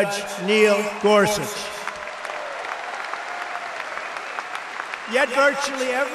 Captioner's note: applause